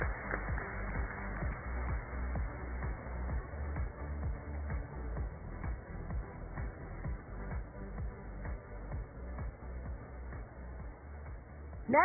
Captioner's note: cheers and applause